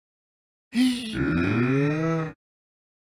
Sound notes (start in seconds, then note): 0.8 monster groan